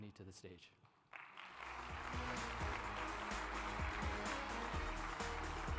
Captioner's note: applause